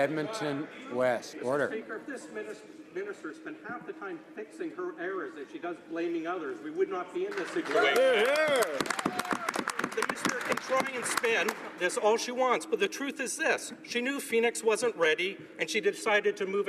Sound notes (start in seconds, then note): 12.4 some Applause